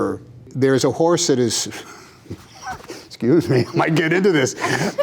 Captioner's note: laughs